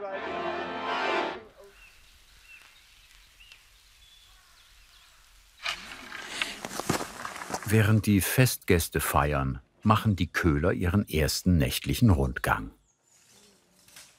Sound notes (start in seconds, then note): 1.4 birds chirping